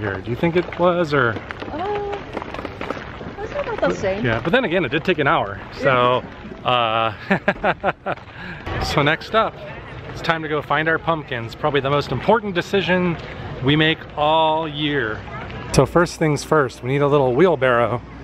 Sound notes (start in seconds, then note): 7.1 laughter